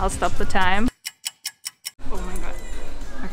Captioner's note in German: Uhr tickt